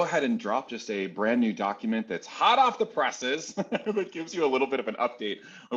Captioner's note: laughs